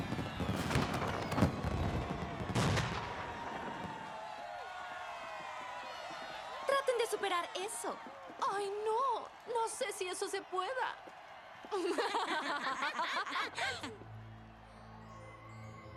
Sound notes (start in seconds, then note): 0.2 crowd cheers; 8.5 sarcastic; 11.8 nasty laughter